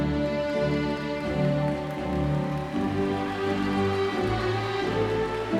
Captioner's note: audience claps and cheers